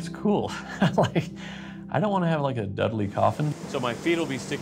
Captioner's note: chuckling